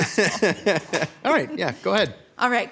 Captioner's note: chuckles